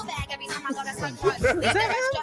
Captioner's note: laughing